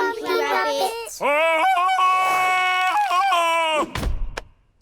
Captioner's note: bellows like tarzan